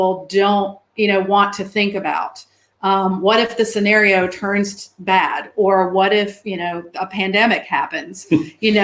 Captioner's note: erm